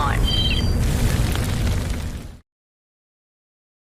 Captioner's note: audio crackling